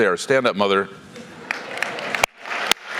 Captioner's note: applause